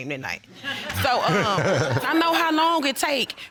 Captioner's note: all laughing